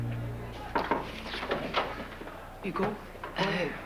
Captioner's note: On frappe à la porte